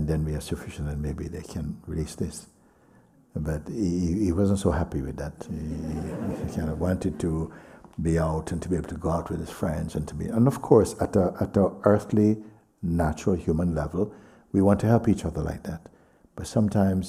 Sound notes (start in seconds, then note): 5.6 laughter